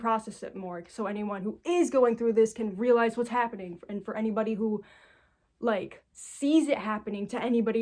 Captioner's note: none